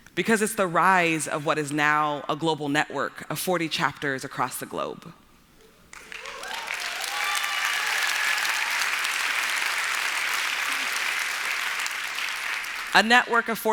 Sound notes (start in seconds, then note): 5.9 applause